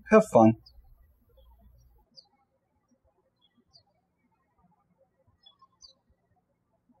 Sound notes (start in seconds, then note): 1.8 birds chirping